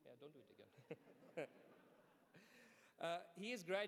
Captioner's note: laughs